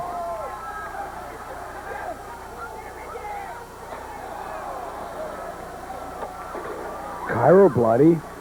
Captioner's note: crowd cheering